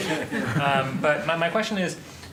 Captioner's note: laughter